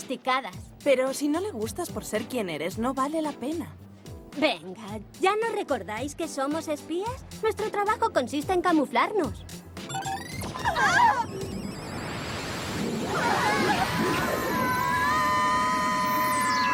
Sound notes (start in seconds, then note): 10.3 gasps; 13.2 shouts